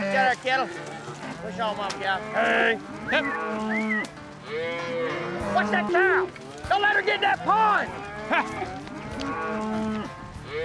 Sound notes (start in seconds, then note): 2.1 whistling, mooing